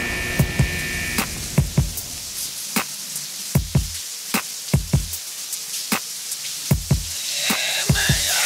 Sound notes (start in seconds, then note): 0.0 alarm buzzing; 0.3 hip hop music; 2.2 water spattering